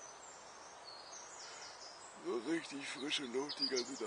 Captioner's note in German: Gähnen